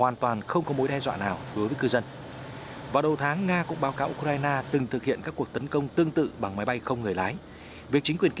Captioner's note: drone